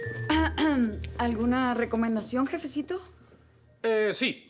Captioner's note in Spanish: Carraspea